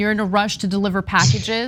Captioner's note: laugh